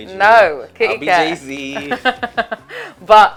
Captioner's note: laughs